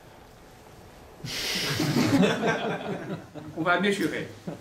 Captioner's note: laughter